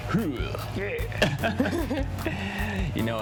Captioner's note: both laugh